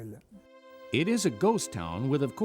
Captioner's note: voiceover